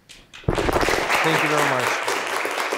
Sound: audience applauding

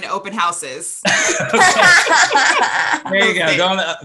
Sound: all laugh

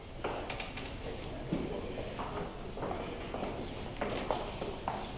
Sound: group chatter quietly

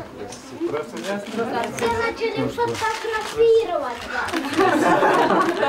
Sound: laugh

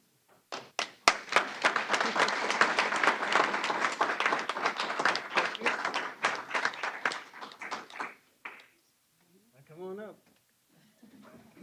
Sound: applause

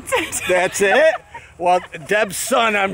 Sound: laughing

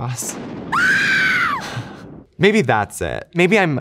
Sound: woman shrieking

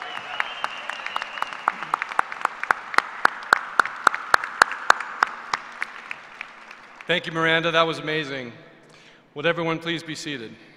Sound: applause

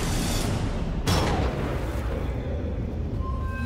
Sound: gun fires

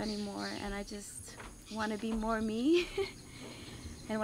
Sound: chuckles

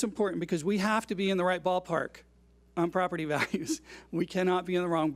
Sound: laughs

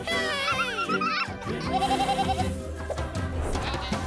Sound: bleating

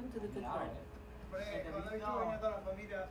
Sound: non-english speech

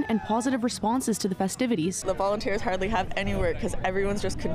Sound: cheers

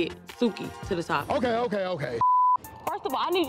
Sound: beep

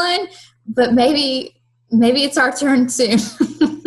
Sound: laughter

